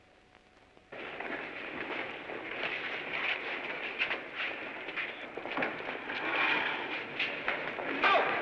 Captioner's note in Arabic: صوت أجساد تتحرك